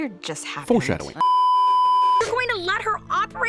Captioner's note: beeeeeeeeeeeep